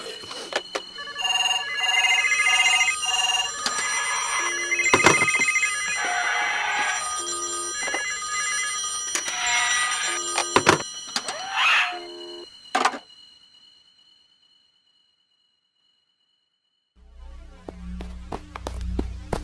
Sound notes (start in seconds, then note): 1.4 phones ring